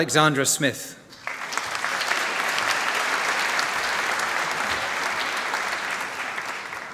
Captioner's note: applause